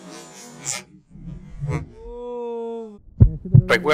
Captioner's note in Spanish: grito deforme en cámara lenta